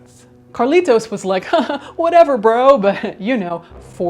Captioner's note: laughing